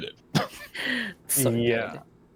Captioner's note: laughing